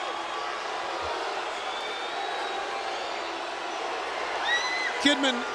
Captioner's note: crowd clamoring